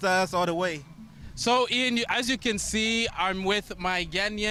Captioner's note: speaking alternate language